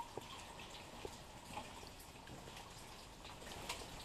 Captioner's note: water trickling